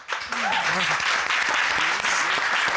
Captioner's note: audience applauding